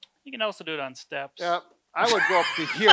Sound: laughs

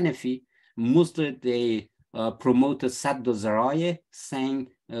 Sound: speaking arabic

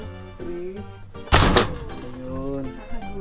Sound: door slam

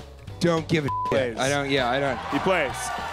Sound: beep

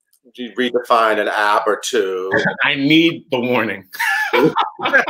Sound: laughs

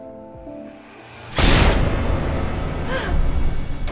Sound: shot

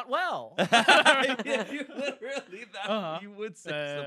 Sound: laughing

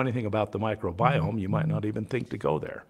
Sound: phone vibrates

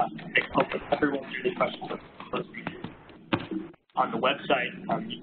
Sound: electronic distortion

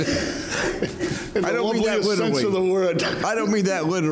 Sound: laughter drowns out speaking

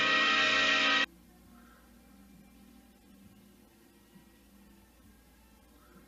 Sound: TV noises on camera

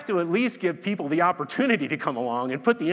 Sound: laughs

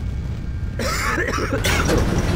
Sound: coughing

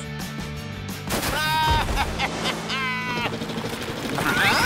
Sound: baaing

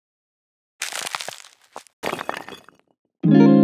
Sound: cracking sound

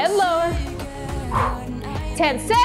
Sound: exhales

